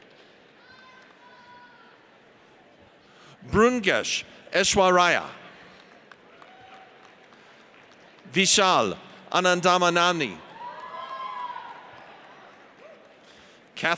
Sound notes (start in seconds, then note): 5.6 audience applauds; 10.5 audience cheers